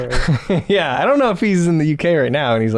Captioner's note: chuckles